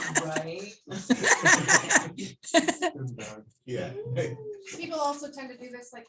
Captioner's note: laughter